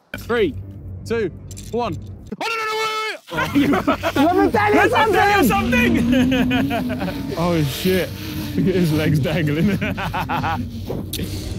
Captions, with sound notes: - 3, 2, 1, oh no, wait, wait, wait, wait. - Lemme tell you something. [laughing] - Oh sh*t, loot at his legs dangling.